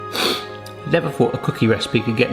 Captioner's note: sniffs